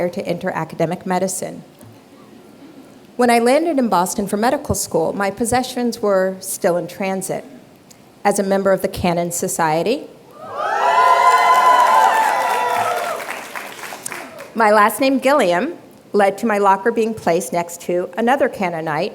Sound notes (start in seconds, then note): 10.3 cheers, applause